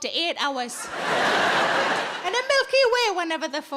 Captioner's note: audience laughs